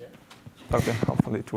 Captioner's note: audience member answering